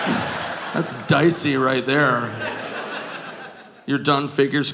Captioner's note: audience laughing